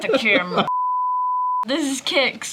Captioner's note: screen bleeping